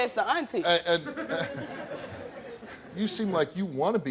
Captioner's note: laughter